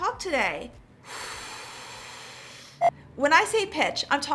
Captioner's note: strong exhaling